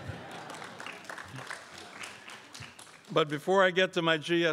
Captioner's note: crowd applauds